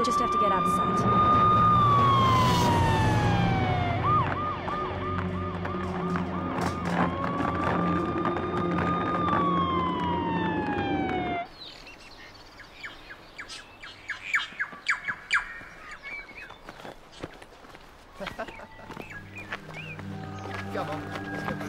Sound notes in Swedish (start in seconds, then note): 11.7 fåglarna kvittrar; 18.1 Tuppar skrattar